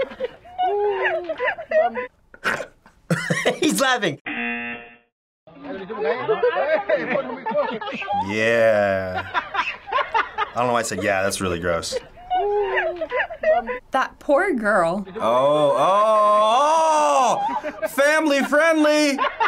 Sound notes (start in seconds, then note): 0.0 man laughing; 4.2 buzzer